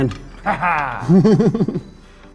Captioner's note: laughing; laughs